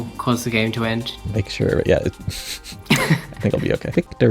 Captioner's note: chortles slightly; chuckles